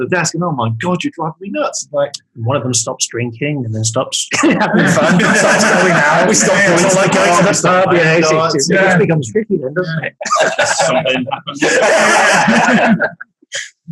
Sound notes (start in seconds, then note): 4.3 group laughing